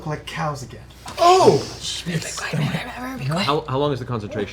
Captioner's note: shushes